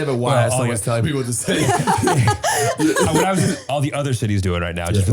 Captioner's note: all laughing